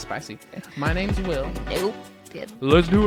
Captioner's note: laughs